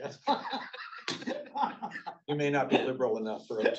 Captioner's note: both men laughing